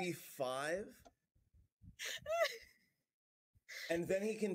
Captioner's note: dying laughing